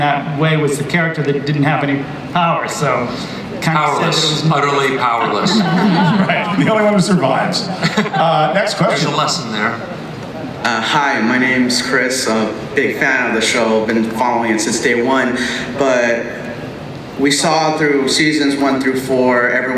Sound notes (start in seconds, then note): 4.8 audience and panelists laugh; 11.1 voiceover